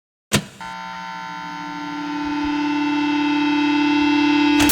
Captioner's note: radio waves buzzing